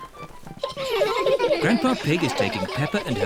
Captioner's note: children laughing